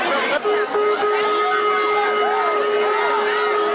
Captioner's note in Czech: houká siréna